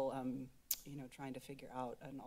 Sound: clicks Tongue

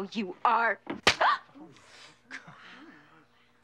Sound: gasps; hand slaps; audience murmuring

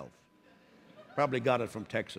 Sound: laughter

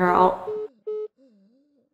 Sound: call ends

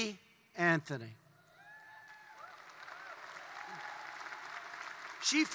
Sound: applause

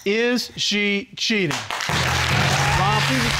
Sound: audience applauding

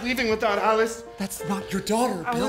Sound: speaking

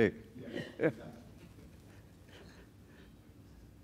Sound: laughter

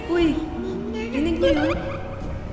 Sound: kid chuckles

